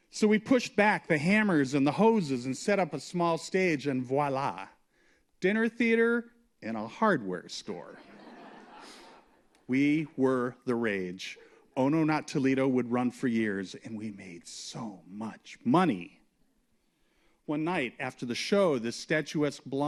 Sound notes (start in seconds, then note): 7.9 laughter